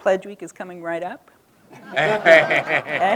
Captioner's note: laughter